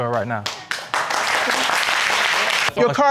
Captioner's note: audience applauding